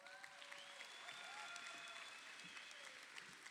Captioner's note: crowd cheering